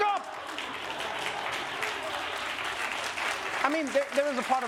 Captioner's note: applause